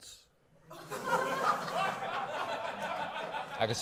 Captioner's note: laughter